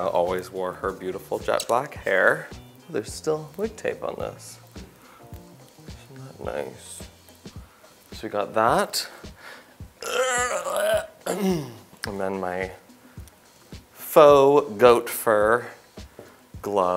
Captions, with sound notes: always wore her beautiful jet black hair. There's still wig tape on this. Isn't that nice? So we got that. (groans) And then my faux goat fur gloves,